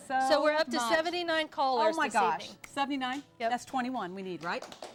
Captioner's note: applause